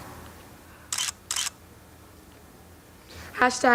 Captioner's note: camera clicks